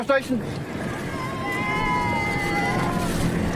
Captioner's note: cheers